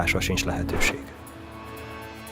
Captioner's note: whooshing sound